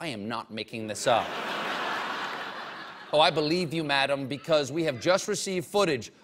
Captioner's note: laughter